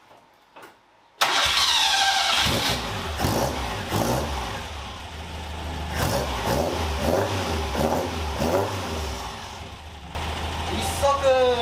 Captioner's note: engine whirring